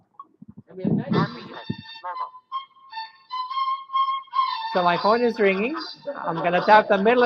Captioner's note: phone ringing